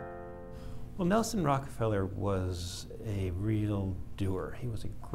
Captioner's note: voiceover